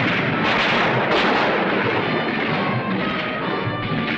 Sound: guns firing

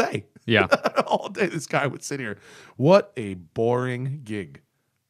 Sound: laughter

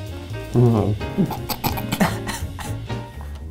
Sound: jazzy music; chuckling

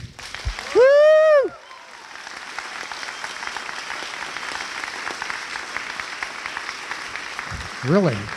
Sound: applause

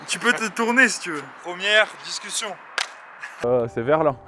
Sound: clap

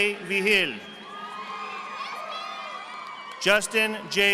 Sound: audience applauding

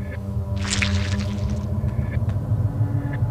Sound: Changeling sound effect

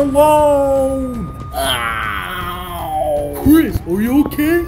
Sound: Chris painful groaning

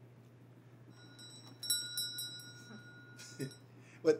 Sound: bell ringing

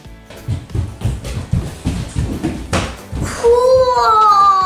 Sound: footsteps pounding

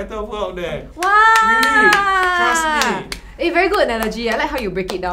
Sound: applause

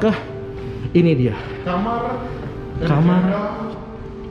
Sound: dramatically

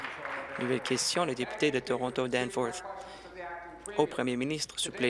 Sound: applause

